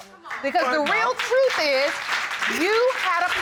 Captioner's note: audience applauding